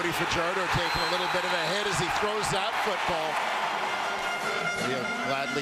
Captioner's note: crowd Noise